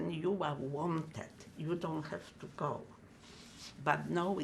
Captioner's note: wiping nose